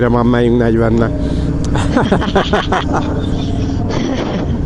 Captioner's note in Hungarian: nevetés